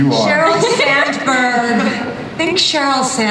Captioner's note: audience and panelists laugh